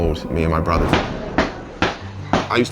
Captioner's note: smacking sounds